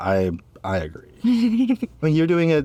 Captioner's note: laughs